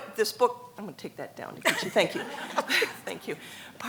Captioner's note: laughs